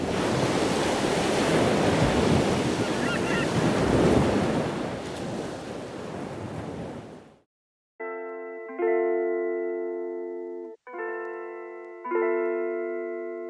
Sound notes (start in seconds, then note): 0.0 waves crashing; 2.7 seagulls cawing; 10.7 relaxing music